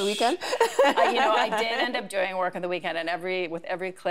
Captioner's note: chuckles